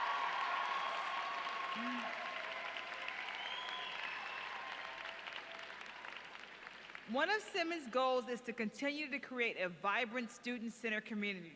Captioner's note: applause